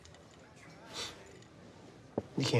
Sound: sniffs

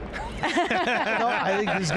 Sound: everyone laughs

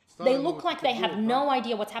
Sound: speaking Foreign Language

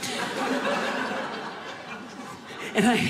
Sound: audience laughing

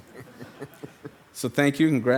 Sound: group laughing

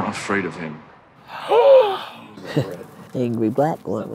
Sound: gasps

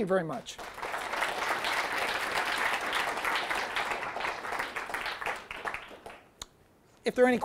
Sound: audience applause

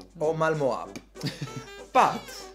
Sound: laughs

